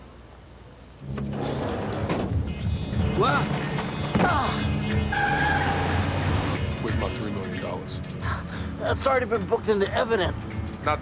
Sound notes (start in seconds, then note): 3.8 grunting; 5.6 tires squealing